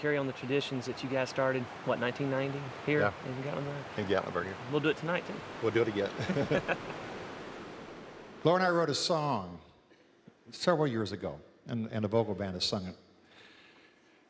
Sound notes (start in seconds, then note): 6.1 both laugh